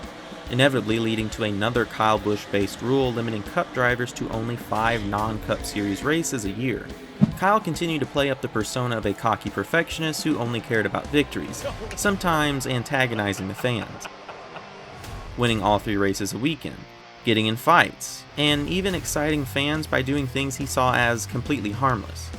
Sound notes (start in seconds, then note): 13.8 broadcasters laughing; 13.8 crowd Booing